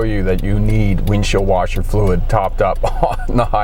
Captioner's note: chuckling